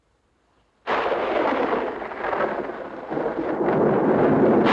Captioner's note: thunderclap crashing